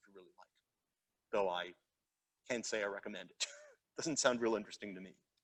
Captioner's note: chuckles